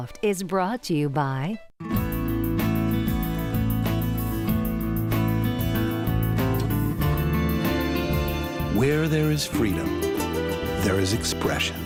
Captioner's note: voiceover